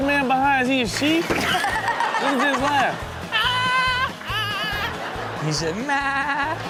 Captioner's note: continues laughing